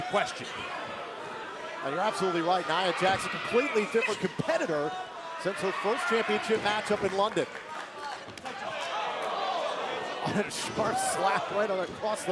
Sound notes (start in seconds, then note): 1.9 crowd chatter; 8.5 crowd cheering